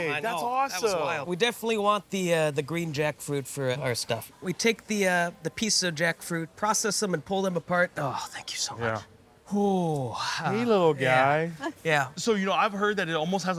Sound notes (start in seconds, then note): 10.9 laughing